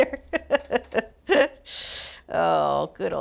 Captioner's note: laughing